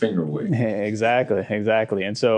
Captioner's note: chuckle